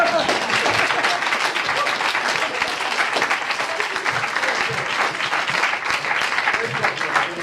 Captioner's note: audience applauds